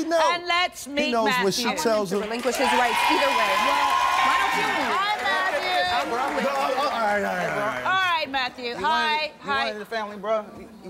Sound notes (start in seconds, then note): 2.5 audience shouting